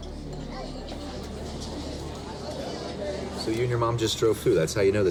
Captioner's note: indistinct restaurant chatter